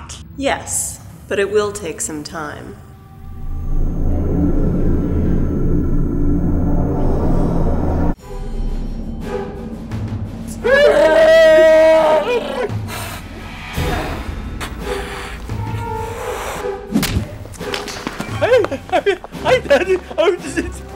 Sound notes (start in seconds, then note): 3.5 magic sounds